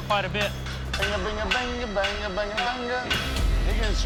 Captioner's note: humming